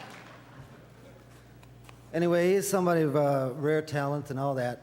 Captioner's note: audience laughter